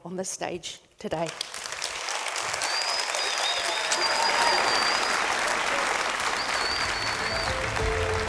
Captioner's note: audience Clapping